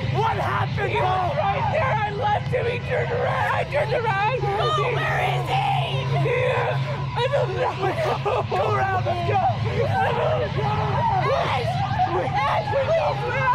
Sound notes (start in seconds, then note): 1.0 shouting; 10.2 all shouting